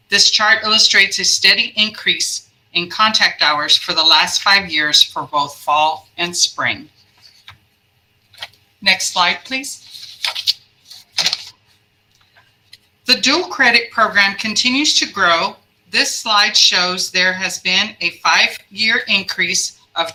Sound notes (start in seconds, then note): 9.8 papers ruffling